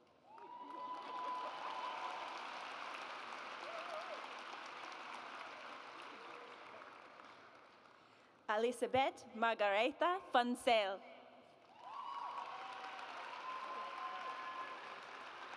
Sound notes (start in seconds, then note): 0.1 audience applauds; 11.6 audience applauds